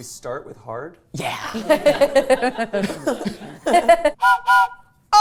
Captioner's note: laughing; train whistle blowing